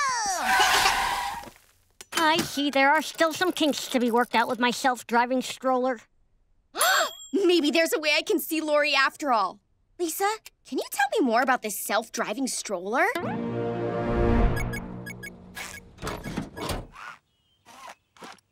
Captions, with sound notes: [giggling] I see there are still some kinks to be worked out with my self-driving stroller. [gasping] Maybe there's a way I can see Lori after all. Lisa, can you tell me more about this self-driving stroller? [beeping]